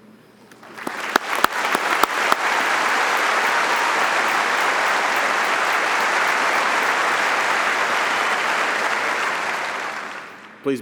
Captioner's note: audience applauding